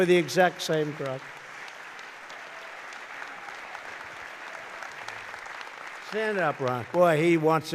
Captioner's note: applause